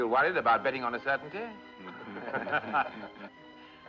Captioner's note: Todos riem